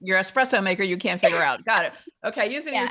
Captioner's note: laughs